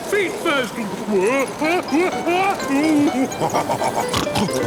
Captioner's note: shouting; laughing, snorting